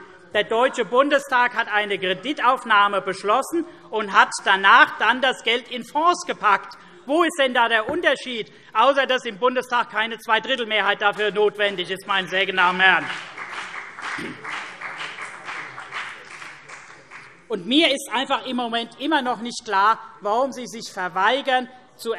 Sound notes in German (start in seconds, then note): 13.0 Beifall CDU und BÜNDNIS 90/DIE GRÜNEN - Zurufe SPD